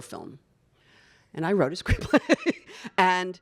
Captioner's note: laughs